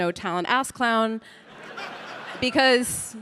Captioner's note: audience laughing